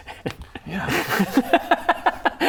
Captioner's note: devious laughter